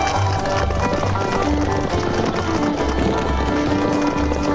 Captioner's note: gentle upbeat music; horse hooves clopping; gentle upbeat music